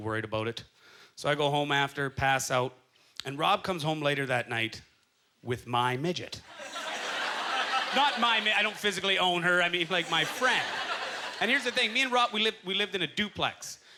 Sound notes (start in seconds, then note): 6.5 audience laughter